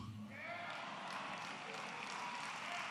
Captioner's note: applause